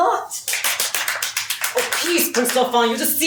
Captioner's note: applause